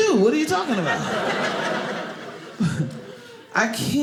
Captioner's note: audience laughing